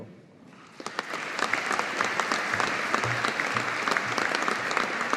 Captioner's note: audience applauding